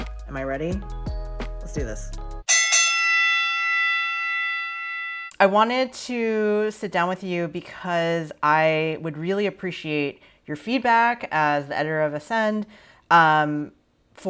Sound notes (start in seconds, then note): 2.5 bell clangs